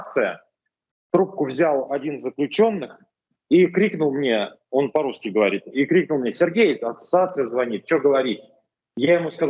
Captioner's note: he spoke in Russian